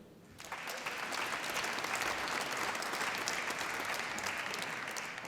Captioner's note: applause